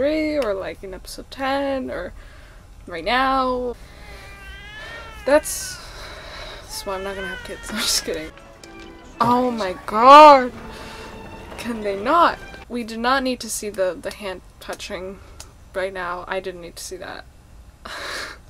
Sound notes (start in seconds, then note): 3.9 baby cries; 17.8 laughs